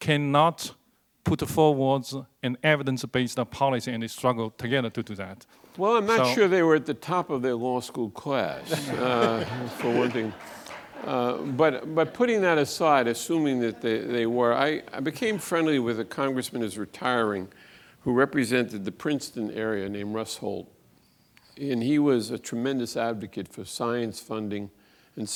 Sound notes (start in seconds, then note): 8.5 audience laughs